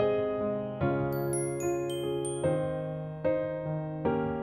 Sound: bell chiming

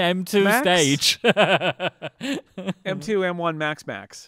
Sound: laughing

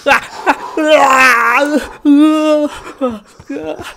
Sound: screeming

